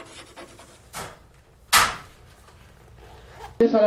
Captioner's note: chalkboard writing; locker door closes